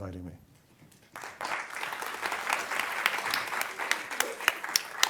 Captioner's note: applause